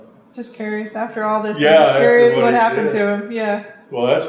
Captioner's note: laughs